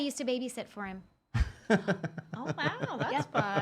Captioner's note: laughing